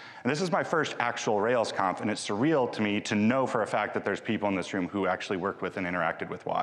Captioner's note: none